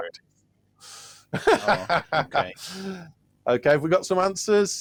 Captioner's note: laughs